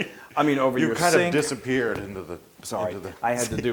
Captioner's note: laugh